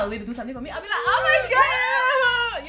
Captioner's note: thankful noises